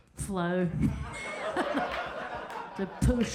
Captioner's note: crowd laughs